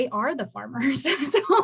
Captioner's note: laughter